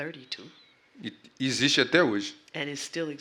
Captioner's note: speaking portuguese